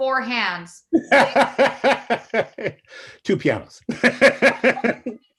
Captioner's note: laughs